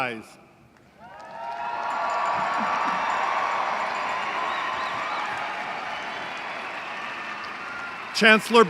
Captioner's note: applause